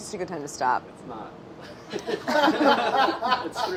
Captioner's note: laughing